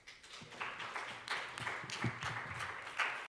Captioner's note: audience applauding